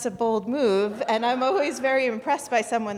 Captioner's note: audience chuckling